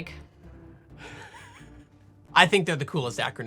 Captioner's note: laughing